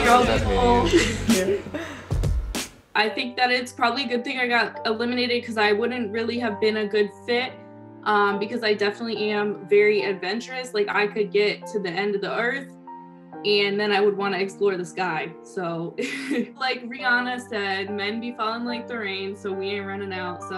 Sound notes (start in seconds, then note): 15.9 giggles